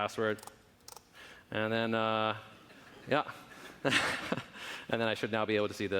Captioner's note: laughing